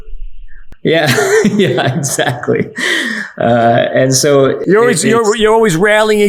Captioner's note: laughing